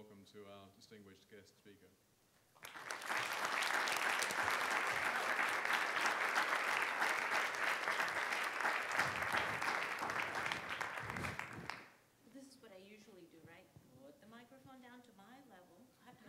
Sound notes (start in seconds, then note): 2.4 audience applauding